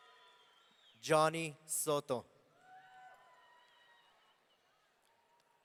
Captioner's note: audience cheering